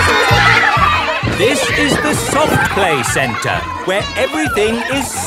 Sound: loudly over shouting

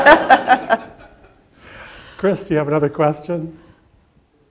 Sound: laughter

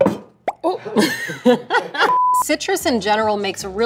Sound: laughs

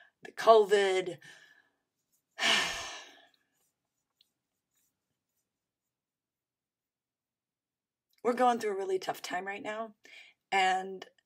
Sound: sighs

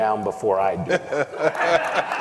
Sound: laughter

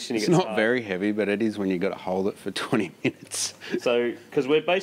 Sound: laughs

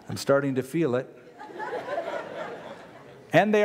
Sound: laughter

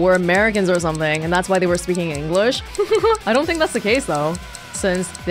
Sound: chuckles

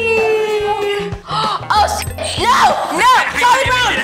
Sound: gasps

